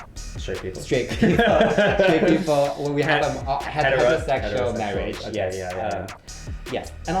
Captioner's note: laugh